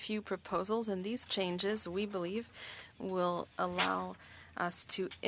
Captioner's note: speaking French